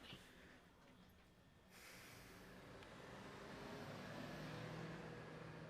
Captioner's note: Chris sighs heavily